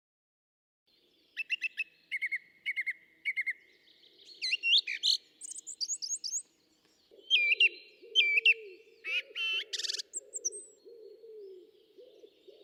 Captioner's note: bird song